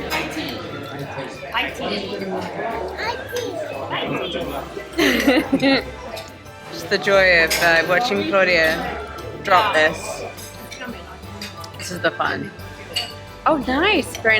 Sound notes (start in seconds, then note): 5.0 laughing